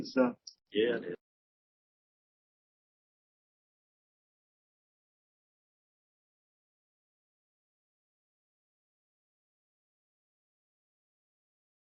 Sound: silence

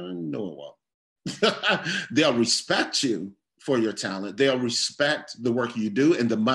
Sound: laugh

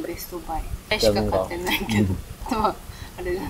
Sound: laughs

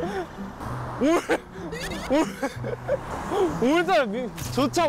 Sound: he stutters out of surprise

